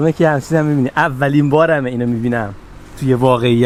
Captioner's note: car